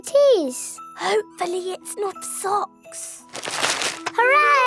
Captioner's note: whispering